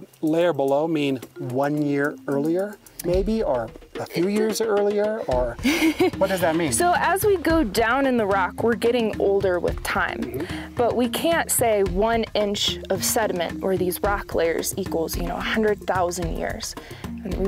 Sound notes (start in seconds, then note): 5.6 laughs